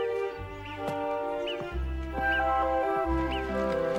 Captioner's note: birds chirping